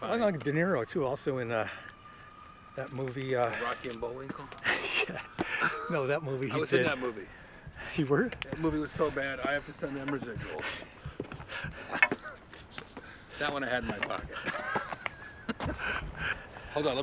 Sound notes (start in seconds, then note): 11.0 laughing; 14.8 Kevin and Jeff laughing